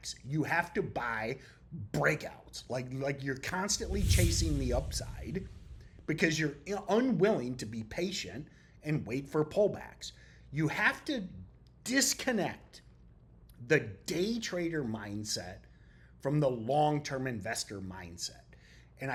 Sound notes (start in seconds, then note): 3.5 text whooshing